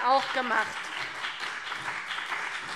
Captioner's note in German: Beifall BÜNDNIS 90/DIE GRÜNEN und vereinzelt CDU